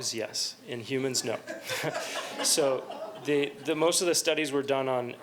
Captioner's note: laughter